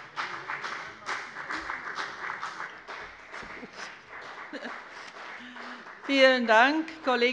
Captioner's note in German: Beifall bei der FDP